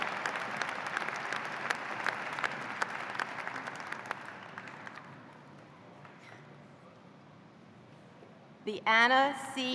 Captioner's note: cheers and applause